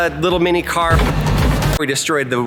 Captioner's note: object crashes